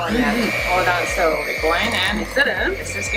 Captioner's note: machine whirls